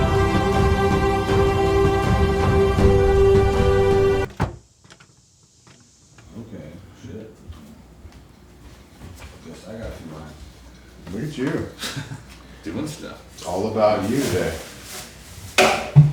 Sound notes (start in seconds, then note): 4.2 door shuts; 11.7 chuckles